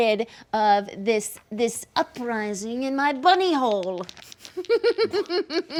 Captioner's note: laughs